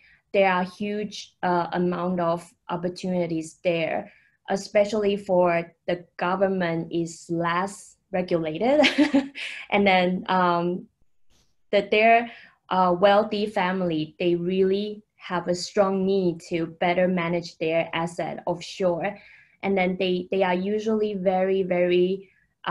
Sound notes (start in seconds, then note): 9.0 laughing